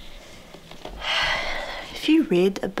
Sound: breathes out loudly

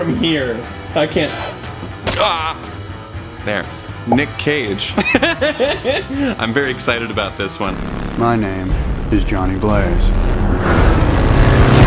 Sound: laughs

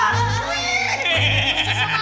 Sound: laughing; neighs

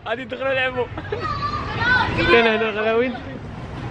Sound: children yelling

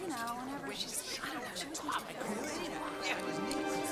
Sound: chatter

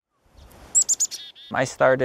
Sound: birds chirping

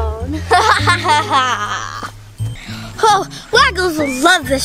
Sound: Evil Assistant laughs

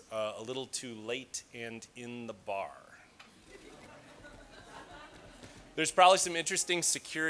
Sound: laughing

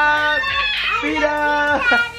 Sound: yells; laughs

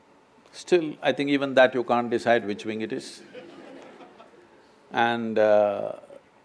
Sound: laughter

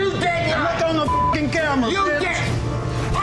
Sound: beeping

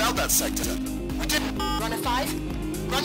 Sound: beep

